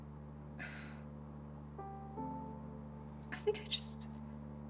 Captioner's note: Kimberly sighs